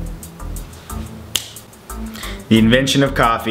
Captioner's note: snaps fingers